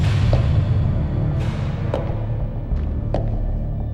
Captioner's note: footsteps echoing